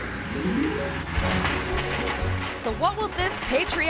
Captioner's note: beep; bright music; fireworks popping